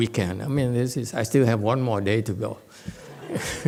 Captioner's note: laughs, audience laughs